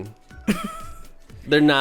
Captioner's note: laughs